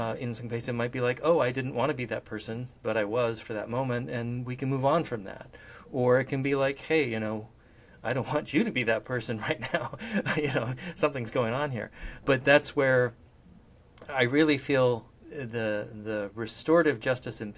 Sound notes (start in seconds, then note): 9.6 laughs